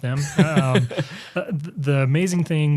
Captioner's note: laughs